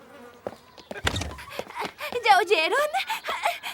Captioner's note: panting